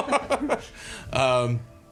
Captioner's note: laughing